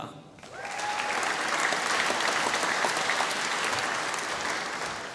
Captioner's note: applause